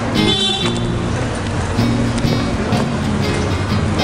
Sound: traffic honking

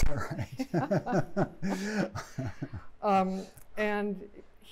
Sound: laughter

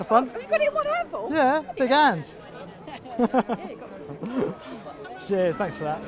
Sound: laughs

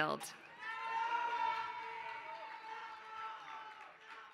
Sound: applause

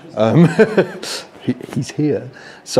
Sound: chuckles

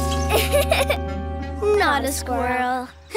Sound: giggling

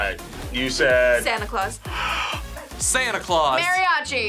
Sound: gasps

